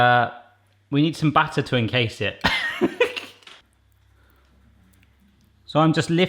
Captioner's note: chuckling